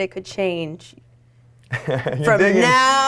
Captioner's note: laughing